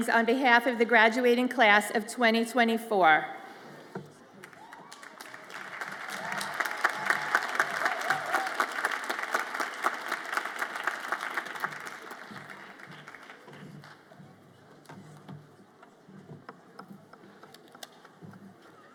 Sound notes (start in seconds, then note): 5.9 audience applauds and cheers